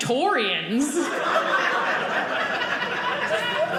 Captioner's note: audience laughing